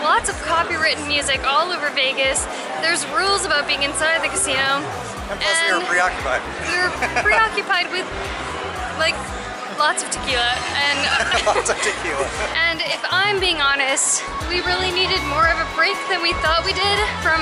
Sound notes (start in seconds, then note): 10.9 laughter